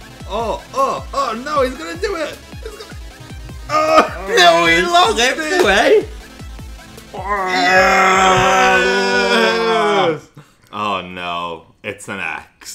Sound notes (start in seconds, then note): 2.6 chuckles; 7.2 gargling